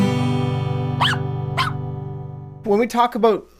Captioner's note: dog barking